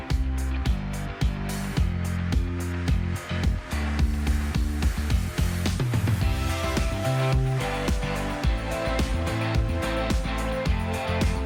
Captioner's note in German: Motorgeräusch